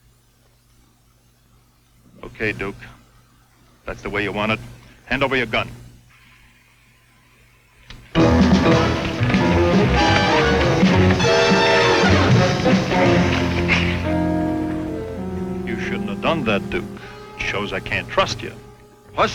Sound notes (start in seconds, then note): 8.4 dramatic music; 11.1 men fighting